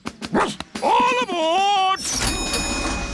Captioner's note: barks; rings bell